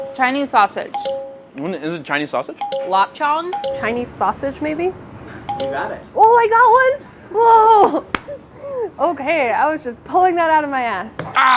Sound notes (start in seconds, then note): 0.9 dinging; 3.5 dinging; 5.4 dinging